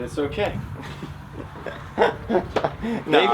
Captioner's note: laughter